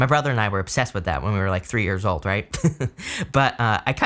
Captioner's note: chuckles